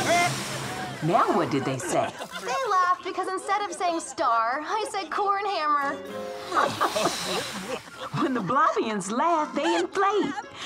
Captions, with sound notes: Now what did they say? They laughed. Because instead of saying star, I said "corn hammer". [laughter] When the Blobians laugh, they inflate.